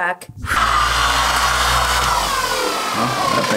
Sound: buffer motor spinning

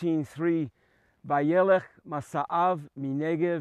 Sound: speaking Hebrew

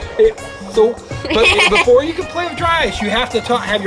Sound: chuckles

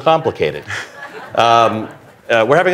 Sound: laughter

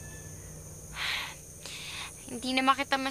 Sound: sighs

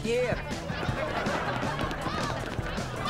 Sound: arguing

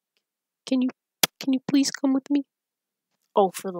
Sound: leetle voice

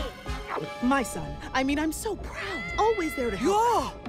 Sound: gulps

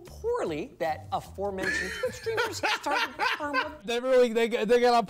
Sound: laughter

